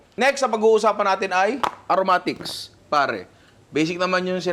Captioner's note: none